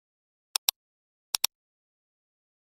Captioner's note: click